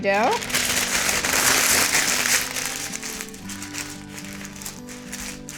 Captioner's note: parchment paper crinkling